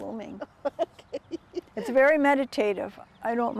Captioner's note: laughing